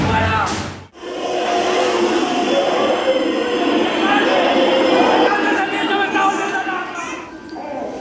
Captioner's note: sounds of thumping and screaming; baby crying